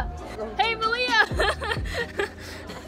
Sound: awkward laugh

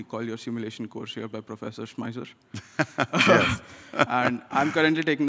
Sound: laughs

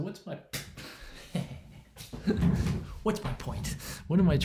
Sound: laughs

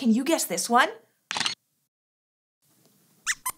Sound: squeaks squeaks

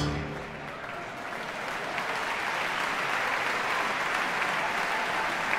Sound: audience applauding

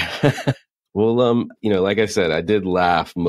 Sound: laughs

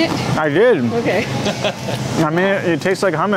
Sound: laughs

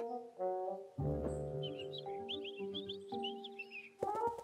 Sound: birds tweeting

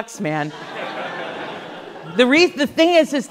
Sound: class laughs

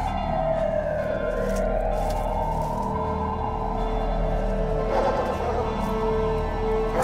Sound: loud city noises

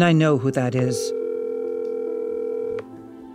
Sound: phone ringing

